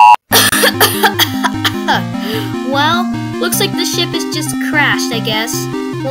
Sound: coughing

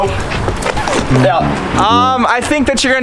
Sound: record scratches

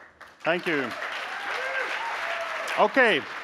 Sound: applause

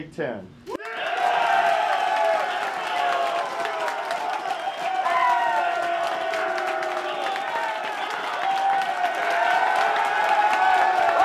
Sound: applause and cheering

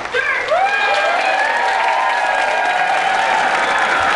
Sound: cheers and applause

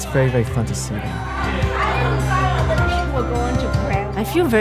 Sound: excited dinner conversation

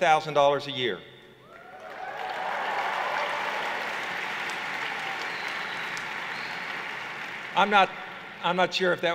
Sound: cheers

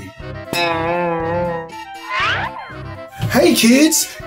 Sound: boinging sound effect

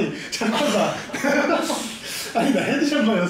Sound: laughing

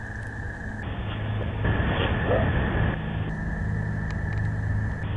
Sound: static hissing

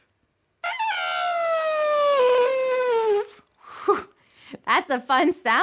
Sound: trumpets

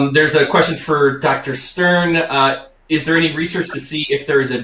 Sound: none

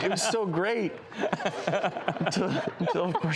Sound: laughs

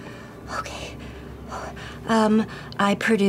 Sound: sighs

